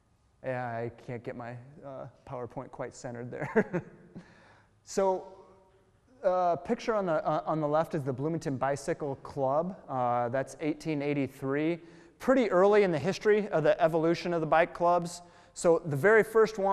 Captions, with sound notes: I can't get my Powerpoint quite centered there. (chuckle) so picture on the left is the Bloomington Bicycle Club, that's 1883. Pretty early in the history of the evolution of the bike clubs, so the very first one...